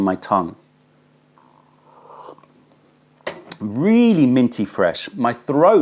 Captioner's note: sips tea